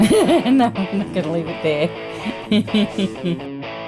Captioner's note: laughs; rocking music